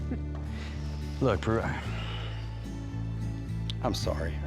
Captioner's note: sighs